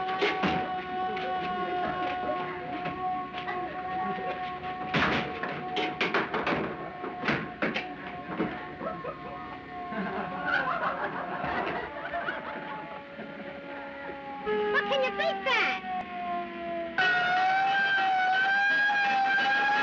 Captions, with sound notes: [ Laughing ] WELL, CAN YOU BEAT THAT? [ Siren, Bell Clanging ]